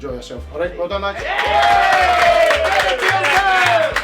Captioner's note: team cheering and clapping loudly